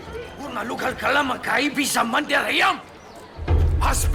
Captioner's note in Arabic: الصوت المنطوق البدوي